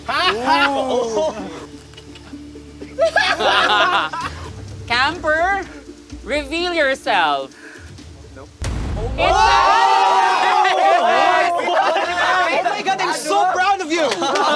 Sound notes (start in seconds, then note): 0.0 campers react; 8.6 bong